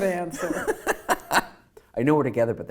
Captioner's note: laughing